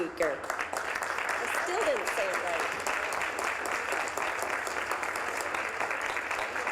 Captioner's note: applause